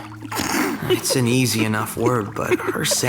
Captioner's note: chuckling